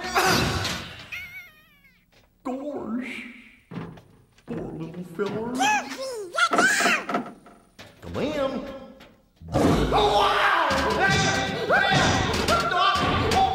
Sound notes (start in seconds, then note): 0.2 Goofy exerted grunting; 1.1 background pained whimpering; 6.4 background wooden knocking; 9.6 parent hair warning growling; 9.7 Goofy alarmed yelling